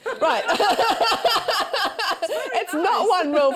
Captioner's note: laughter